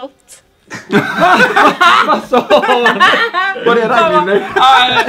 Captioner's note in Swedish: skratt